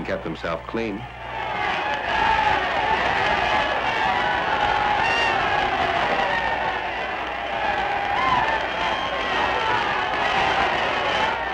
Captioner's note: crowd cheering